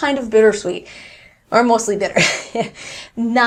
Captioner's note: laughs